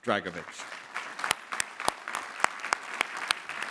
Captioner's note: clapping